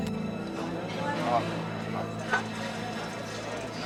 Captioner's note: tense music; chattering